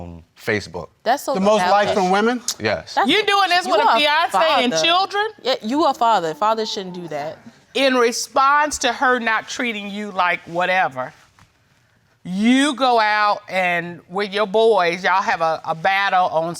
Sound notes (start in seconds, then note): none